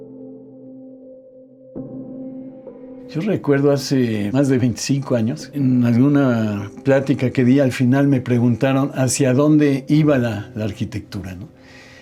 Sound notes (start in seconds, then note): 3.4 continues in Spanish